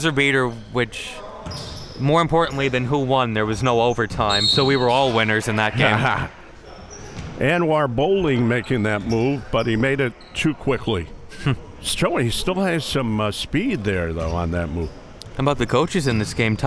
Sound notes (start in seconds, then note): 4.2 whistle blows; 5.8 laughing; 11.3 laughs